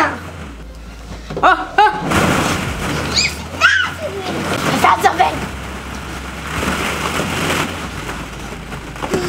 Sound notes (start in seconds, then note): 3.3 ball pit rustling; 3.3 squealing